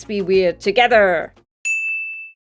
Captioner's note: ding